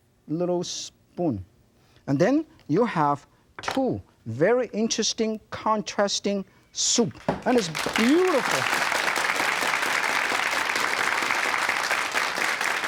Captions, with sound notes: Little spoon and then you have two very interesting contrasting soup and it's beautiful. (crowd applauds)